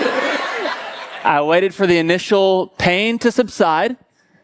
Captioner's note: congregation laughing